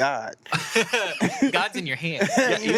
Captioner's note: everyone laughs